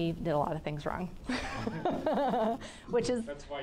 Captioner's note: laughing